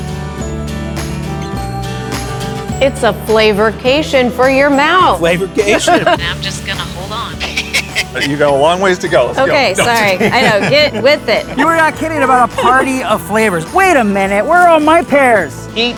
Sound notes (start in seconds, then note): 5.7 laughing